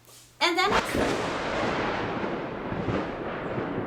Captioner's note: thunder